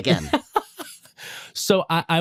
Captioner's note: laughs